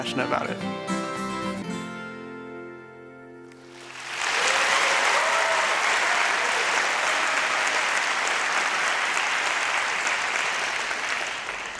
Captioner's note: applause